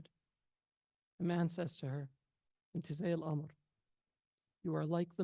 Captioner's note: speaks foreign language